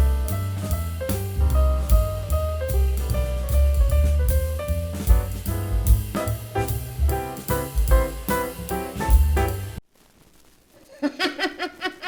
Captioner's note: laughter